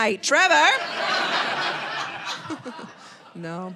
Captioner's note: audience laughing